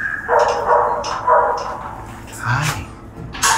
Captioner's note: dogs barking